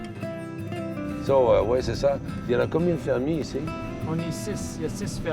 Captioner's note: men converse in quebec french